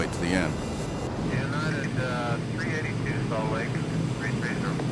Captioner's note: radio chatter